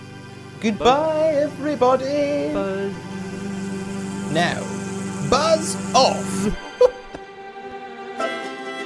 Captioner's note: laughs